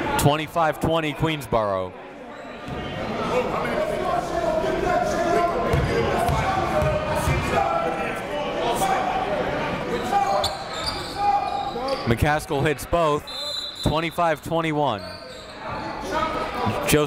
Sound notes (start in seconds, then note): 2.9 coaches talking; 2.9 crowd talking; 13.2 whistle blows